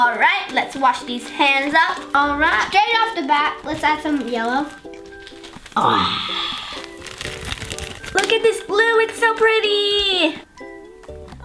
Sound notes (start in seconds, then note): 5.8 gasps